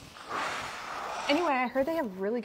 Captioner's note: sighs